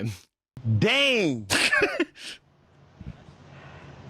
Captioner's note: giggles